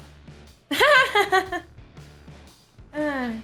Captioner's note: ironic laugh